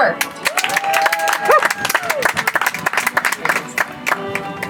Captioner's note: audience applauds; soft music